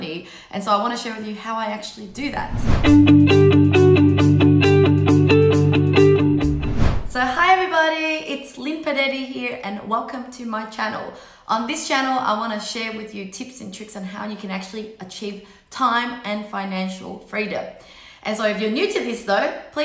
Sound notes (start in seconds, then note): 2.1 whooshing; 2.1 upbeat music